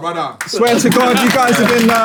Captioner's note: people in room clapping